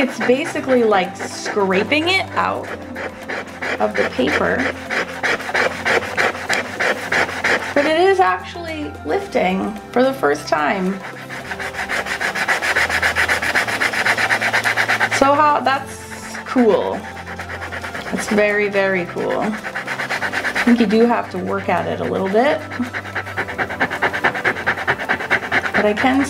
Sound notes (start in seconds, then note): 4.9 eraser rubbing; 11.2 eraser rubbing; 17.4 eraser rubbing; 22.7 eraser rubbing